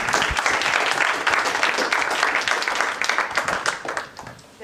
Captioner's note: applause